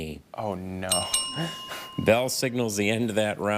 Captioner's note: bell dings twice